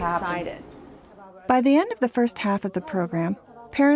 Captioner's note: voiceover